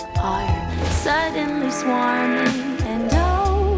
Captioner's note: whoosh of thought-erflies